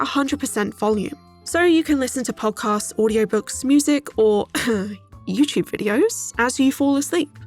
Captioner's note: cough